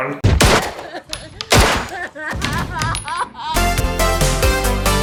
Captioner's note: crying